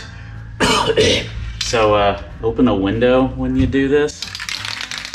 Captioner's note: coughs; clears throat; can rattles